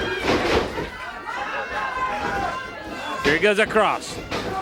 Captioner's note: body thuds